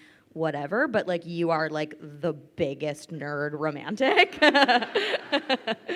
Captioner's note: laughs